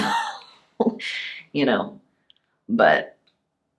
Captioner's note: laughs